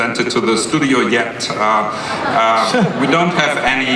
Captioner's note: laughter